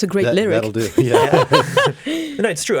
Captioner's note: laughs